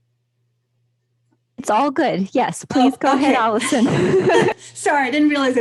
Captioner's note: laughter